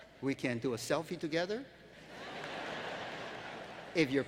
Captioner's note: laughter